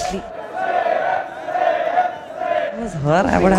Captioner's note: Students chanting